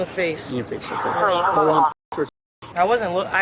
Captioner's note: radio chatter